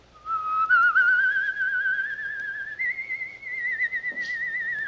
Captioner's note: Henry whistles along